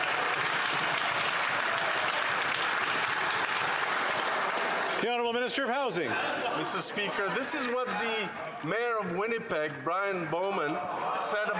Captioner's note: some Applause